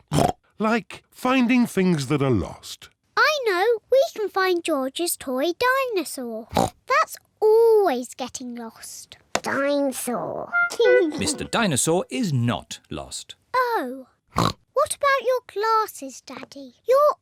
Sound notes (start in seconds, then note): 10.7 giggles